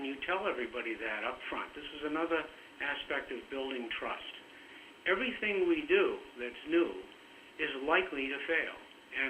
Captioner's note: broken audio